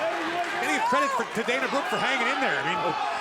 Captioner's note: crowd cheering